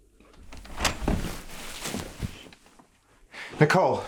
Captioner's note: door opening